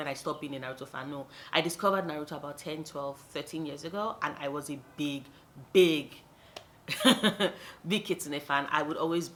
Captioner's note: laughs